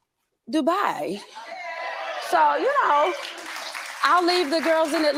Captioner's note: crowd cheering and clapping